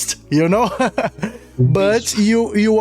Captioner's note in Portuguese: risadas